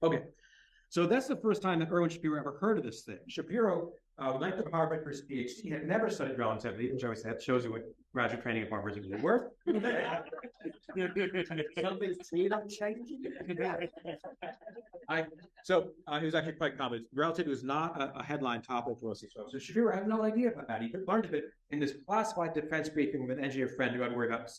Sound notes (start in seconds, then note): 13.2 laughter